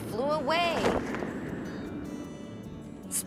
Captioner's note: wind gusting